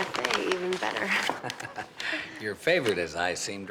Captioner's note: chuckles